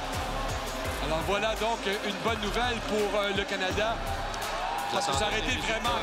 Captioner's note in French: cris de la foule